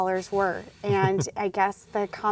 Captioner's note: laughs